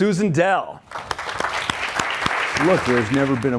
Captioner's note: audience applauds